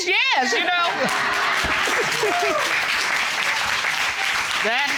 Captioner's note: applause